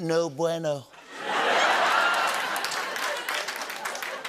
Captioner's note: laughter